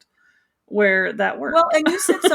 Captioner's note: laughing